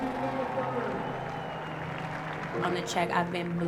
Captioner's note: applause